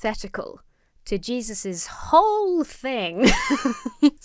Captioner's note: laughs